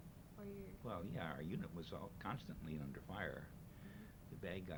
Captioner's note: none